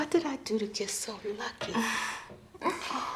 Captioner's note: Tracy laughs softly